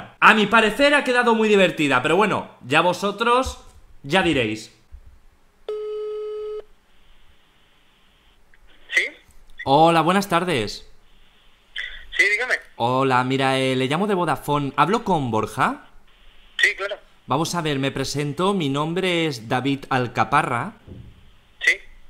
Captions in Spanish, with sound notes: A mi parecer, ha quedado muy divertida, pero bueno, ya vosotros, ya direis (suena movil) Hoola, buenas tardes Hola, eh...mira, le llamo de Vodafone, Hablo con Borja? Vamos a ver me presento mi nombre es David Alcaparra.